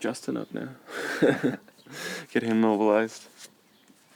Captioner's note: laughing